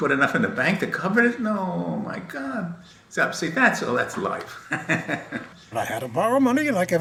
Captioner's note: laughs